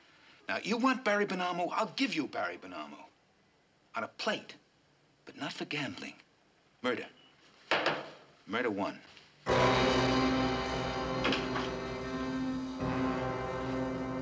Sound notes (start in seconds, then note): 7.7 knocks table; 9.4 dramatic theme playing